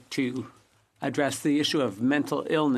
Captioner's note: speaking French